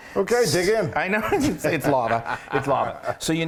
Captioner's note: laugh